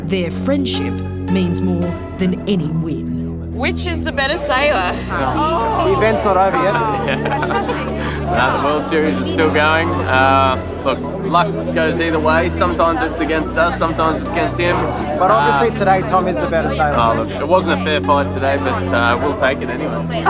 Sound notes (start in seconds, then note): 5.9 chuckles